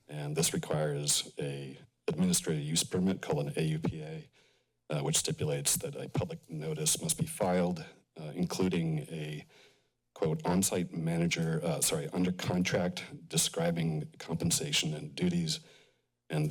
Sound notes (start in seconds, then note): none